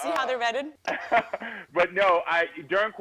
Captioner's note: laughs